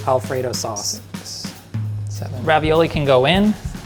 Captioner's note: faintly counting